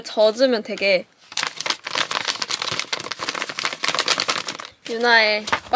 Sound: likes crunchy sound / Crinkled paper ASMR

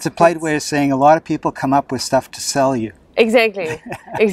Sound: laughs

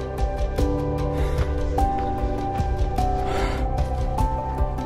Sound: breathing heavily

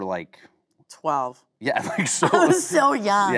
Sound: laughing

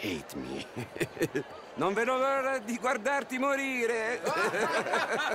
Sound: laughs; in Italian; he and the others laugh

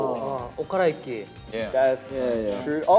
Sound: speaking in Korean

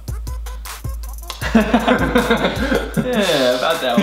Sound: laughs

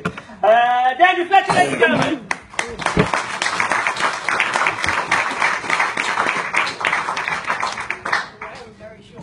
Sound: applause and thunking

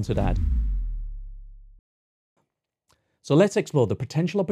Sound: air whooshes

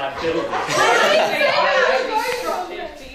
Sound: laughter

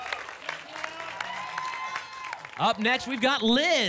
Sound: applause and cheering

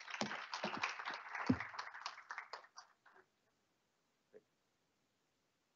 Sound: applause

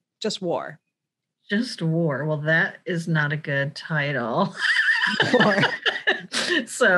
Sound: laughs

